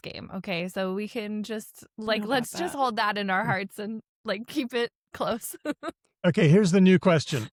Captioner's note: laughs